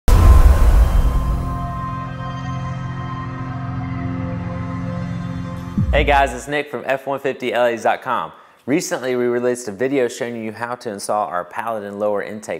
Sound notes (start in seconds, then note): 0.0 sound effect